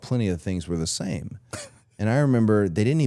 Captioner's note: Chad laughs